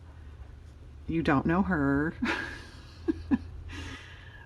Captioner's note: laughs